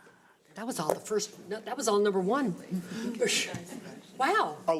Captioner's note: overlapping chattering